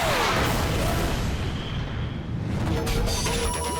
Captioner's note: explosion